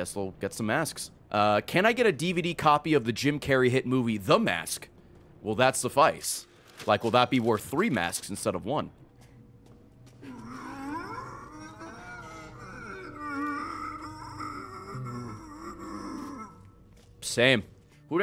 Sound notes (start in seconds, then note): 10.2 monster in pain noise